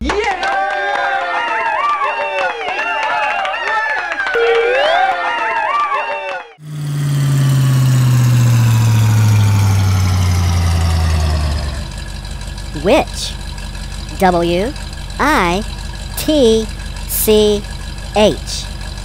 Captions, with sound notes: [ cheers and clapping] [ engine slowdown] Witch W - I - T - C - H